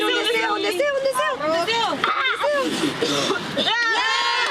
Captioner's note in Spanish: múltiples voces